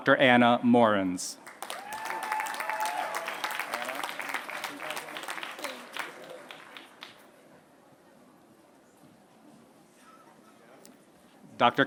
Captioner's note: applause